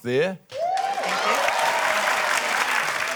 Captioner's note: cheering, applause